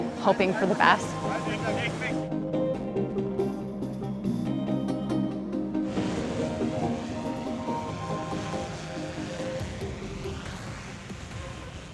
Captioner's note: bright music; blades rotating